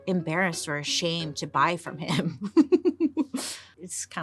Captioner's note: giggles